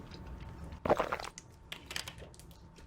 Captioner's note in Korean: 꼴-깍